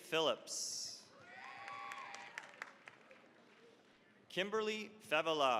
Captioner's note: cheering, applause